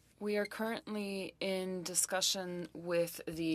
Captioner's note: speaking French